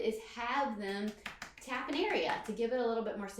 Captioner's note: slapping stomach